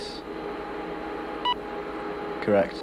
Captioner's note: machine beeps